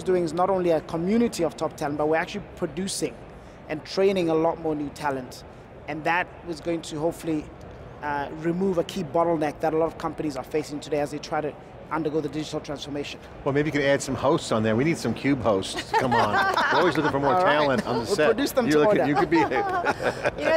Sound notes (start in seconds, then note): 15.7 laughs